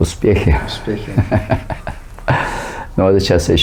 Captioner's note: laughing